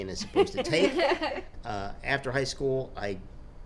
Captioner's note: laughing